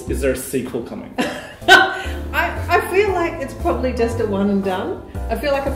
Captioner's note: laughs